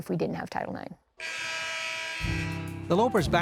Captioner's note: scoreboard buzzes